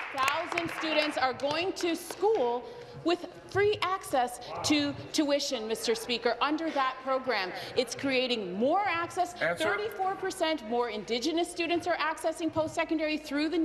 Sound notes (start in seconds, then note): 2.4 applause